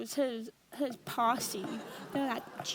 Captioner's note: audience laughs